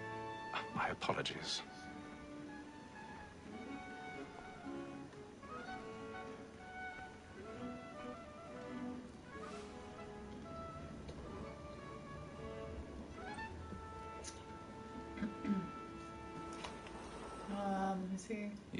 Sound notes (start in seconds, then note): 15.2 clears throat